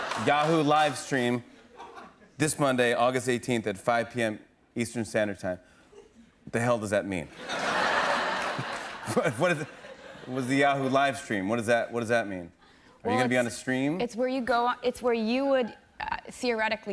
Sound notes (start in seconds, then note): 7.3 laughter